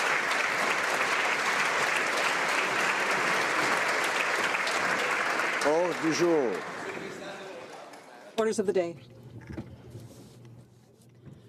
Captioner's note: applause